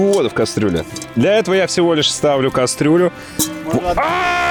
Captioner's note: screaming